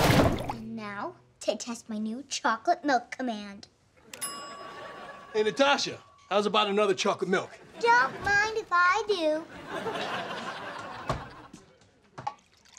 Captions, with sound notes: And now, to test my new chocolate milk command. [dinging] Hey, Natasha, hows about another chocolate milk? Don't mind if I do.